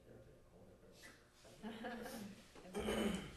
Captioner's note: background Laughter